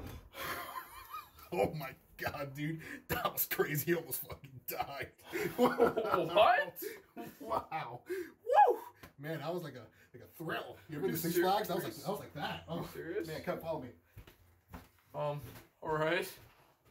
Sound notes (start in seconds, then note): 0.1 Terry laughs; 5.2 Terry continues laughing